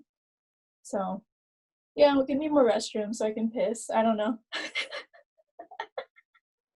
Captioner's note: laughing